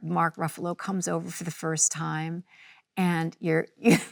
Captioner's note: laughs